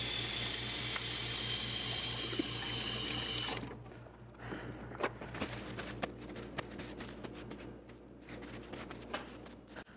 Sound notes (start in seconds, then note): 5.0 paper ruffles